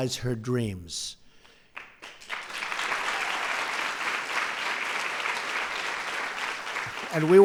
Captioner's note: applause